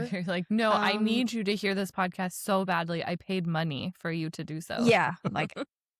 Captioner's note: laughs